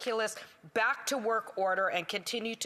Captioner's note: none